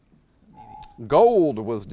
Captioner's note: alarm echoes